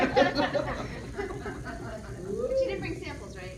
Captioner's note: laughter